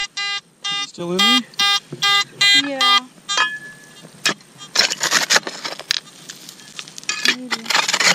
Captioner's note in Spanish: pitido